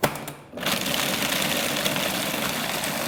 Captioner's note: blender sounds